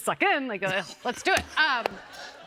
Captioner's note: laughter